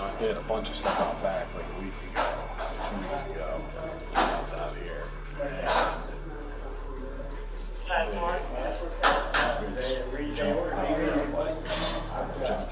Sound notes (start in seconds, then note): 7.9 officer Over Radio